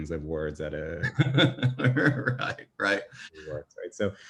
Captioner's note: laughs